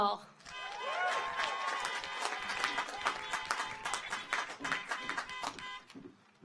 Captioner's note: audience cheers; car horns honking